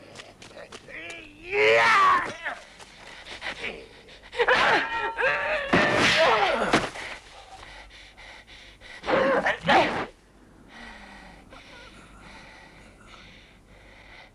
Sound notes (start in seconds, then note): 4.5 swords clanging; 7.1 Hundra panting